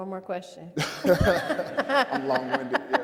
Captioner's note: all laugh